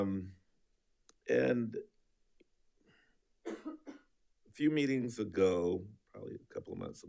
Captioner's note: coughing